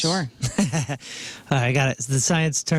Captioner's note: laughing